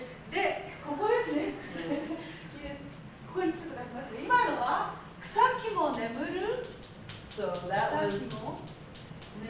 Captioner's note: speaking Japanes